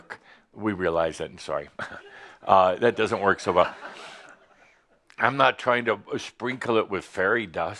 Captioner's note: some chuckles